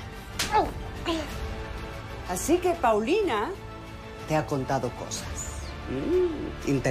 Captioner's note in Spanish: Quejido